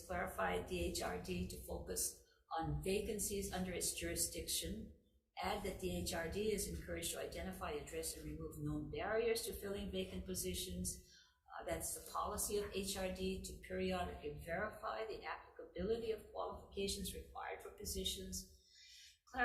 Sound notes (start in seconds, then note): none